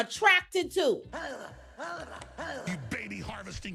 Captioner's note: grunting